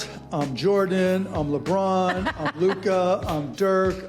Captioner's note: laughing